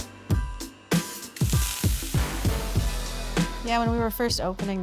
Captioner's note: upbeat music; pan sizzling